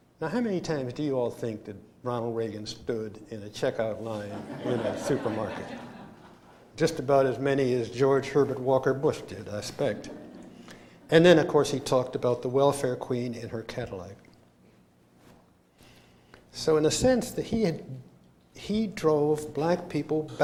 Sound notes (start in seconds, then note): 4.1 laughter